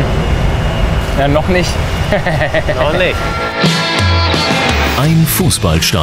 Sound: laughs

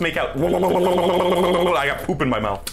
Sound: tongue noises

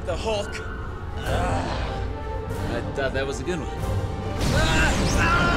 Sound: groaning

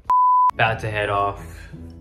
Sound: video beeping

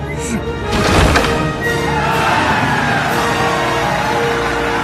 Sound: audience cheering

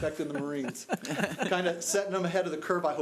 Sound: audience laughing

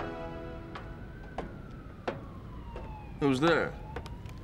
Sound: footsteps echoing

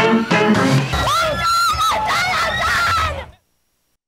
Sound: woman screams

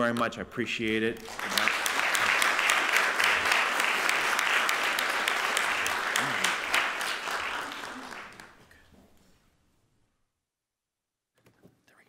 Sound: applause

